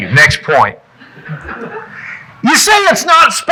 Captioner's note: audience chuckling